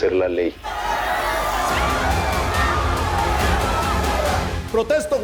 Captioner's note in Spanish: Griterío